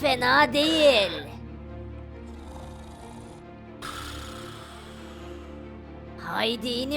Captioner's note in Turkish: Horlama sesi